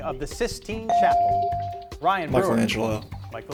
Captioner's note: beep